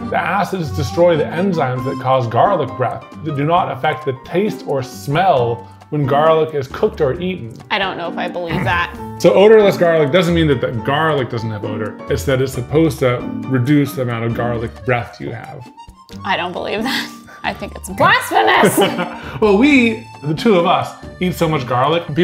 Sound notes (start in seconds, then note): 9.5 grunting; 17.0 laughing; 18.6 laughing